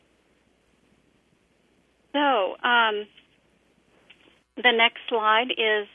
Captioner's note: pause